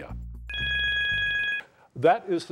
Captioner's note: timer beeps